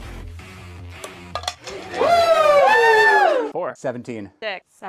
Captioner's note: whooping and cheering